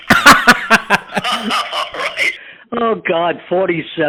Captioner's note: laughing